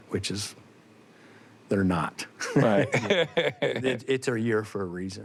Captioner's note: both laugh